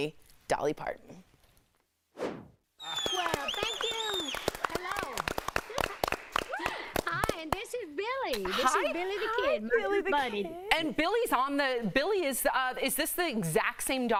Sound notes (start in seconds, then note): 7.6 applause